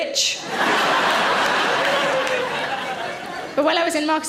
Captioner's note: audience laughs